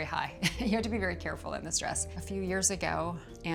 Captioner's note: chuckling